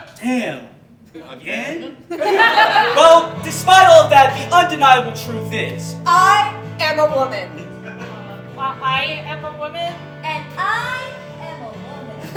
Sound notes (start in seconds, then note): 2.4 music begins to play; 7.5 audience Laughing